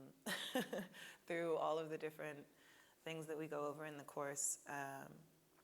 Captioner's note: laughing